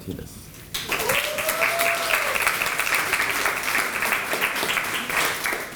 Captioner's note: applause